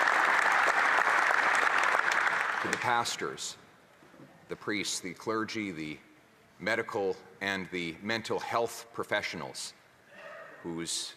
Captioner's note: some Applause